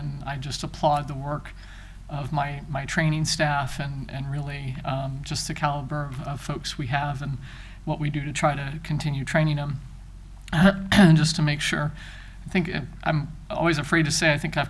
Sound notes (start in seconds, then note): 10.5 clears throat